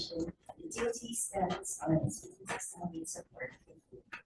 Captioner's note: faintly speaking